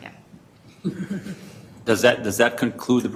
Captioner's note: laughter